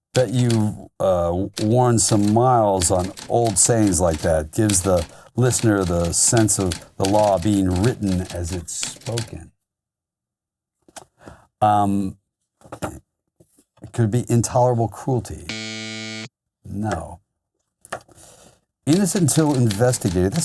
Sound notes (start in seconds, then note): 15.5 loud buzzer